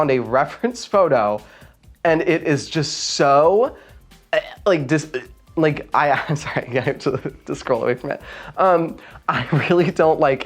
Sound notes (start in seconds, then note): 4.0 wretching; 4.3 gagging